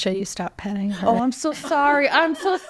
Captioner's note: people laughing